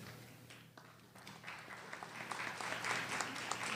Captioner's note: applause